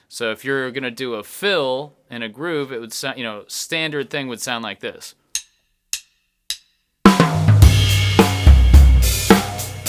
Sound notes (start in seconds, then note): 5.3 sticks tapping; 7.0 drums banging